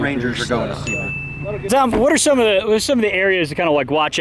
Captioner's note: ding